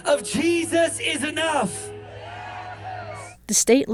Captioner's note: audience cheers